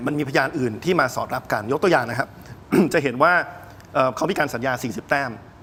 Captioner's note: clears throat